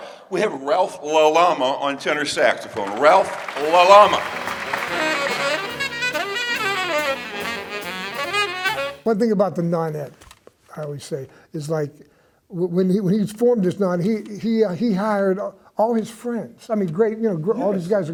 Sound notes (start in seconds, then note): 2.6 audience applauds; 3.4 upbeat saxophone music